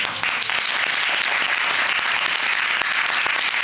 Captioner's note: applauding